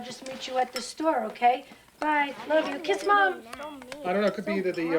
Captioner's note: kids bickering